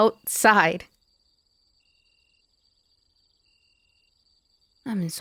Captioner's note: crickets chirping